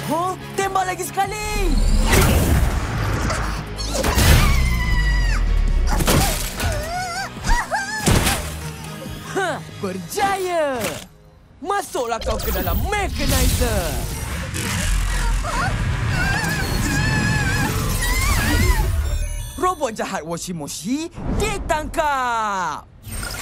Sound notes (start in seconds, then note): 3.3 gasps; 5.8 groaning; 14.0 Washy-Moshy wails, whimpers